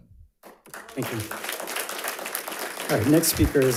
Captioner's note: audience applauds